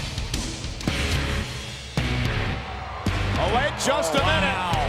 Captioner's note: grungy rock music; crowd cheers